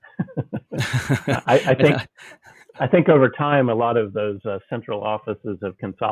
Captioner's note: laughing